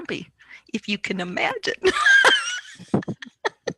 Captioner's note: laughs